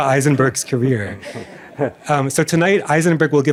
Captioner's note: laughter